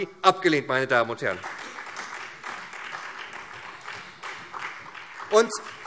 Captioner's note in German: Beifall SPD